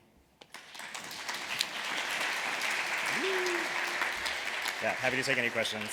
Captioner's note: applause